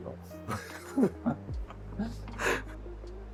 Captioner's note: laugh